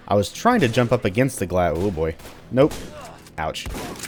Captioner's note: gunfight continues; shotgun blasting